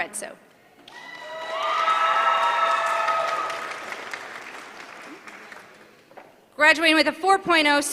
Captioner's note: applause